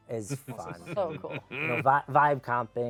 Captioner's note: laughs